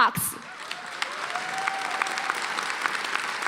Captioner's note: applause